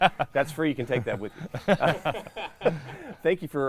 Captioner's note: laughs; laughing